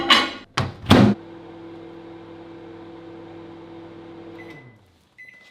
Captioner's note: microwave whirring